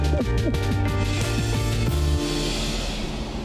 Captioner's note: giggles